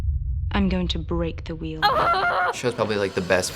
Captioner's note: excitedly